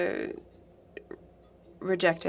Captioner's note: speaking French